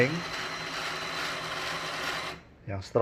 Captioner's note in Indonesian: suara mesin printer